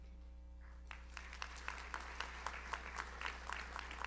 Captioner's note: audience applauds